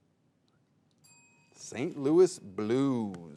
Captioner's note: bell rings